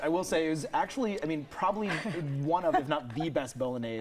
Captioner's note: laughing